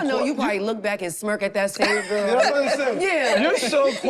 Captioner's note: group laughs